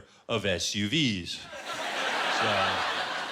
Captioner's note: laughter